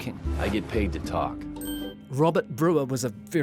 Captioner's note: ding!